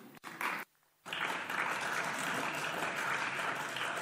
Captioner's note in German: Beifall